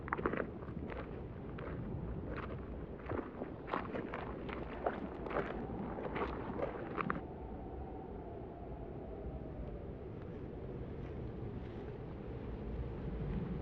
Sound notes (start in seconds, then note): 10.1 wind and rain start to pick up